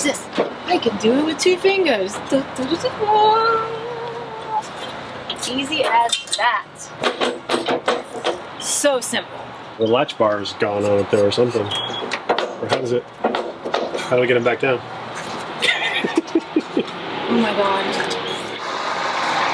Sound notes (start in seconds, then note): 15.2 laughs